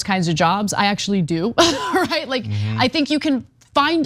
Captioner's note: laugh